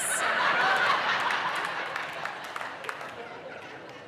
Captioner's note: audience laughing